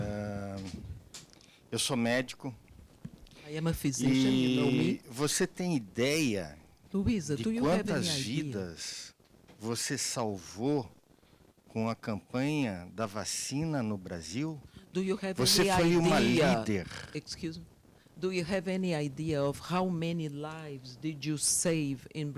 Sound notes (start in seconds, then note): 8.8 man speaking Portuguese